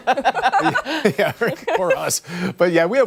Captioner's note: laughter